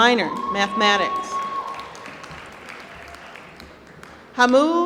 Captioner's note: applause